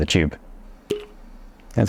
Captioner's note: pop